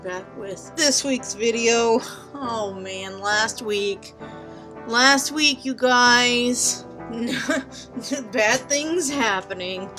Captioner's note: laughs